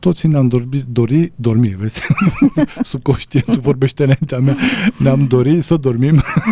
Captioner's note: laughter